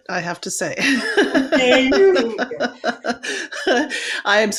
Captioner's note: all laughing